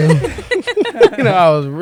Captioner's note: laughter